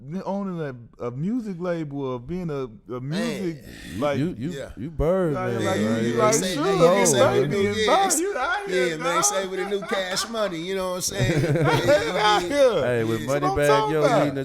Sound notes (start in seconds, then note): 8.0 murmurs; 9.4 laughs; 12.0 laughing